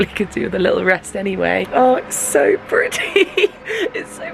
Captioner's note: laughs